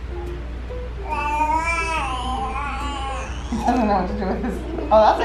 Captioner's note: baby cooing